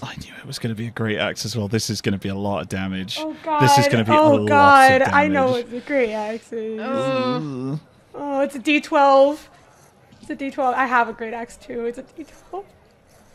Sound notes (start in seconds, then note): 6.9 groans